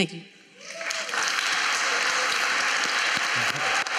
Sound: applause

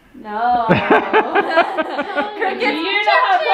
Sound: laughs

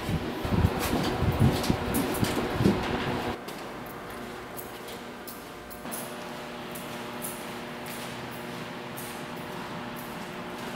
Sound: footsteps

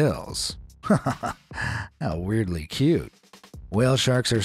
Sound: chuckles

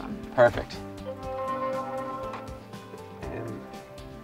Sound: tone ringing

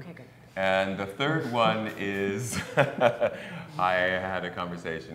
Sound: laughs

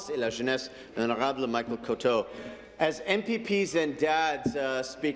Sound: speaking in French

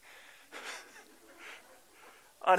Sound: laughter

